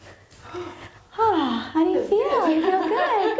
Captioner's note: sighing